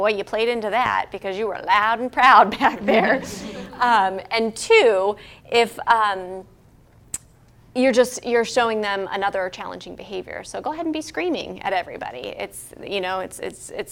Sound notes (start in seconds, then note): 2.6 laugh